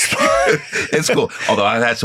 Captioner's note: laughing